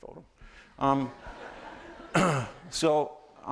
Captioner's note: laughter